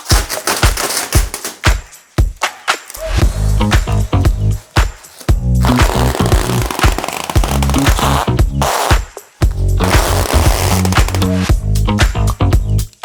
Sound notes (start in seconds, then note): 0.2 upbeat music; 6.9 film screeching; 6.9 upbeat music continues